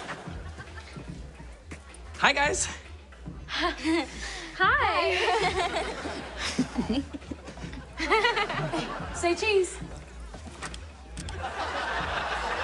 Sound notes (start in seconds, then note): 2.9 both girls chuckle; 6.4 Kurt laughs; 7.7 laughs; 11.1 shutter clicks